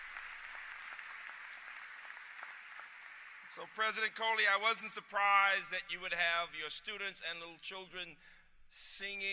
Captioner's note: applause